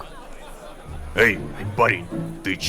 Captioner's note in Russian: шепотом